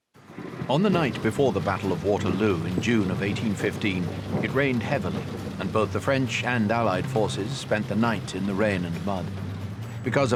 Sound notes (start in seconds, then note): 5.1 rain pattering